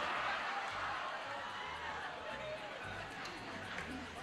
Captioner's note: laughter